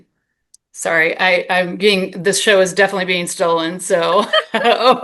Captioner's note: laughs